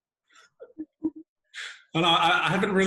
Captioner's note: laughing